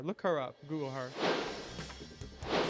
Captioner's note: logo air whoosh